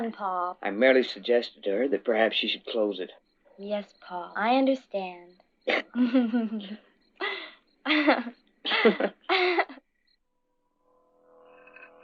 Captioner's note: clears throat